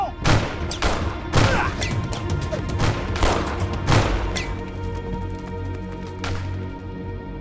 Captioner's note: gunshots continue